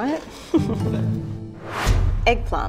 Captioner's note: laughing